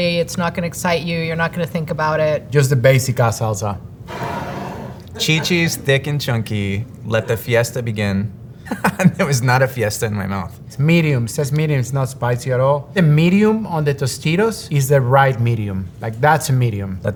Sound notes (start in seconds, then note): 4.2 jar sliding; 8.6 chuckles